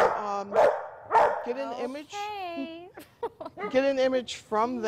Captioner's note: dog barking